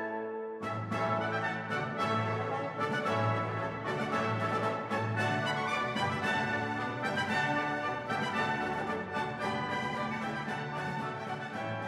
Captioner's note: cheers and applause